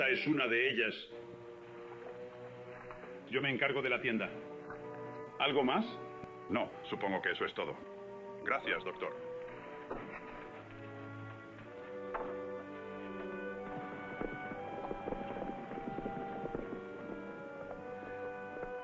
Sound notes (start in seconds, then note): 9.8 dramatic music; 14.1 horse galloping